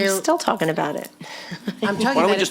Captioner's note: chuckles